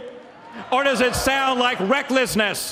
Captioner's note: applause